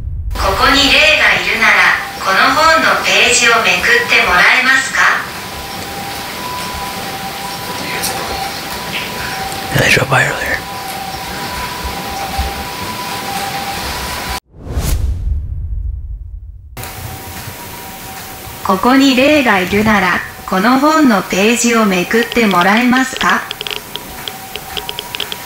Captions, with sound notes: koko ni rei ga irunara, kono Moto no pēji o mekutte moraemasu ka *Whispering* You hear the police? *Whispering* Yeah they drove by earlier. koko ni rei ga irunara, kono Moto no pēji o mekutte moraemasu ka